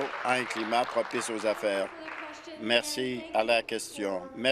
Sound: applause

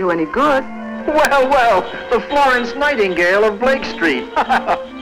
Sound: laughter

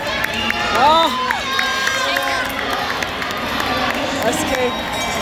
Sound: crowd cheering

